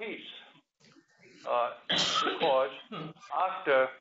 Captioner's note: cough